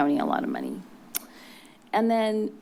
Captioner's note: clicks tongue